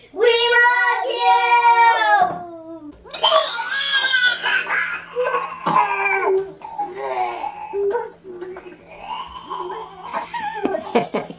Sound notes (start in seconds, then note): 3.1 barfing